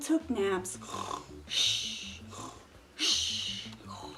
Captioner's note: snoring